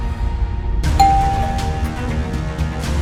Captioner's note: doorbell ringing; dramatic music